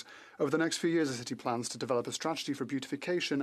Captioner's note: speaking French